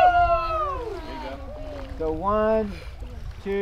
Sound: group shouting

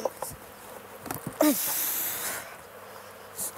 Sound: she groans

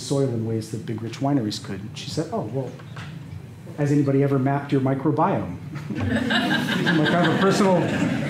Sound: laughter

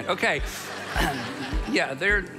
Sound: congregation laughs

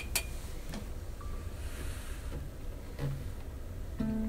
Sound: chair creaking

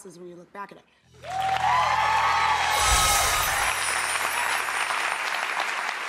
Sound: cheering and applause

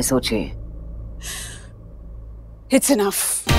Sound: Poonam inhales

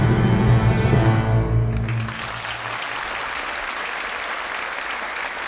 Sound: audience applauding

